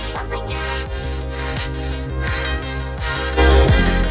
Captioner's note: hyperventilating